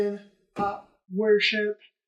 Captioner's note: bop